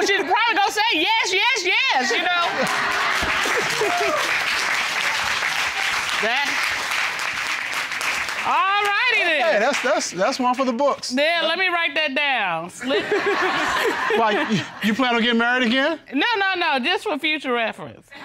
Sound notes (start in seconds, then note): 2.4 applause